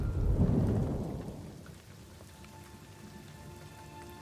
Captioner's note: rain pattering